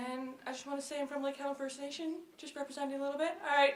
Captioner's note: voice is muffled